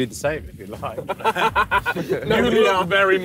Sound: laughing

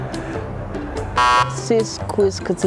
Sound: buzzer beeping

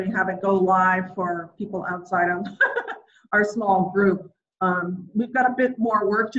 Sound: laughs

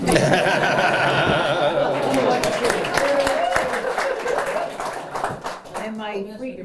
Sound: laughter and applause

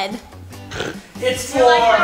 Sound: laughs

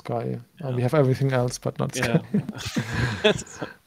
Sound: laughs

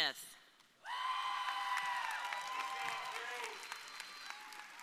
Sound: audience cheering

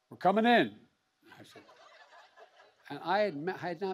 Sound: laughter

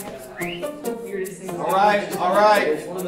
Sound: whistles

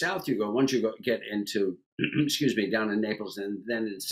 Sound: clears throat

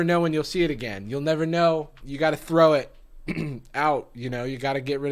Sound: clears throat

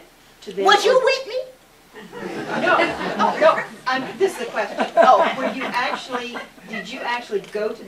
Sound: laughter

